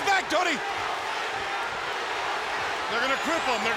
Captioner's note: audience cheering